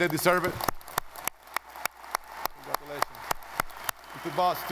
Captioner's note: audience applauding